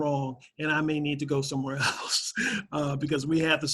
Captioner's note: laughs